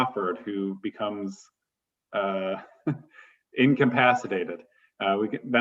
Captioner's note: laughter